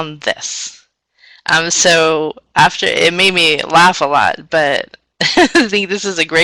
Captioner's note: laughs